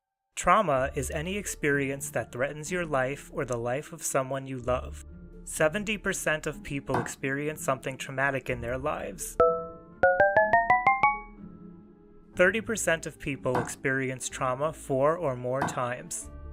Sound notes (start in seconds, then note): 9.4 dings